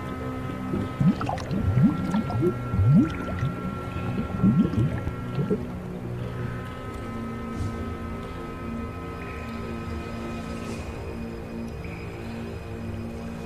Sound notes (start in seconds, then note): 0.6 water bubbles; 7.2 eerie music